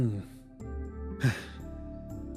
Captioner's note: sigh